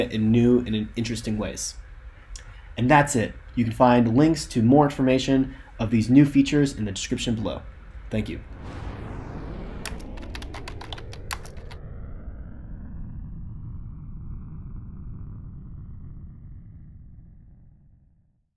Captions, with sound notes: in new and interesting ways. And that's it. You can the find links to more information of these new features in the description below. Thank you. (rocket blasting) (keyboard clacking) (rocket blasting continues)